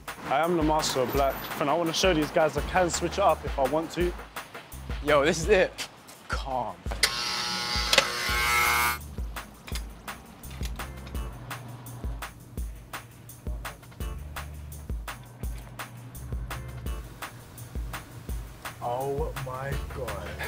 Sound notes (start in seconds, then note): 0.0 upbeat pop music; 7.1 beeping; 8.6 light pop music